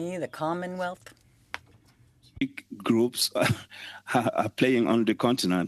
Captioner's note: speaking French